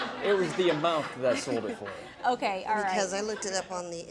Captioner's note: audience laughing